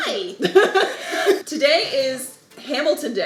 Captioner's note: laughing